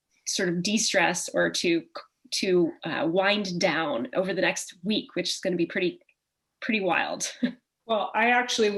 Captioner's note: chuckle